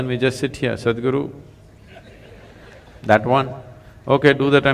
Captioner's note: laughter